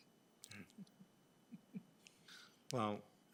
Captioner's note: laughing